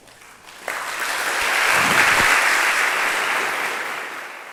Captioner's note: applauding